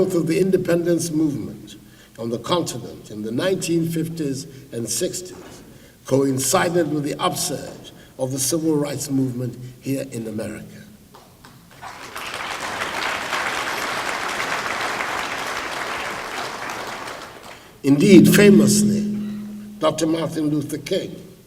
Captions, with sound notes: of the independence movement on the continent in the 1950s and '60s coincided with the upsurge of the Civil Rights movement here in America. [ Applause ] Indeed famously Dr. Martin Luther King,